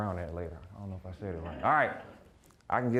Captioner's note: audience laughing